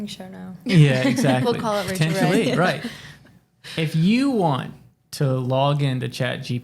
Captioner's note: chuckles